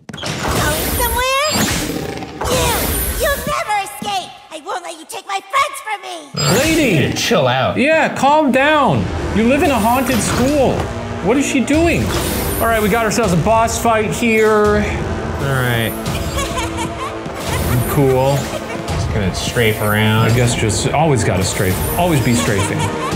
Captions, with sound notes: - Going somewhere? You. You'll never escape. I won't let you take my friends from me. - Lady. - Chill out. - Yeah, calm down. You live in a haunted school. What is she doing? All right, we got ourselves a boss fight here. - All right. (Agatha laughing) - Cool. - Just gonna strafe around. - I guess just always gotta strafe. Always be strafing.